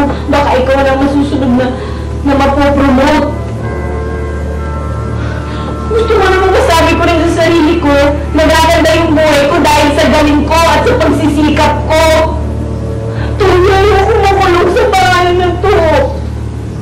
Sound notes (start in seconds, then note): 5.2 Edna pants